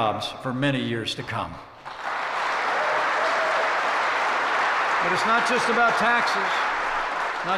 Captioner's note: applause